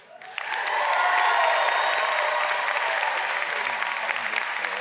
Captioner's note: audience cheering